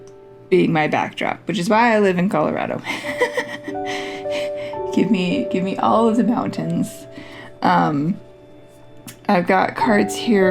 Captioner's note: laugh